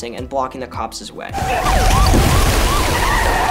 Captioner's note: tires screeching; sirens; glass shattering